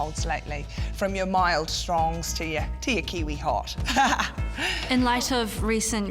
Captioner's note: laughs